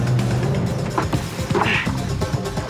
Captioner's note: groans